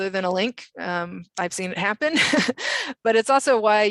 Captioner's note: laughs